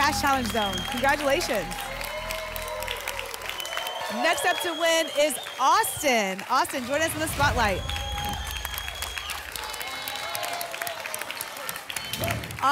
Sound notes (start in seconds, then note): 2.3 applause and cheering; 7.0 whoosh; 9.2 applause and cheering